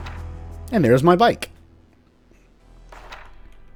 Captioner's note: journal closes